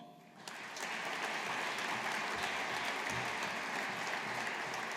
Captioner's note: audience applauding